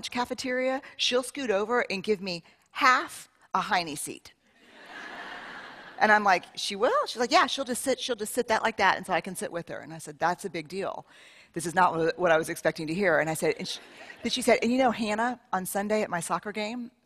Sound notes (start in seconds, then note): 4.6 laughter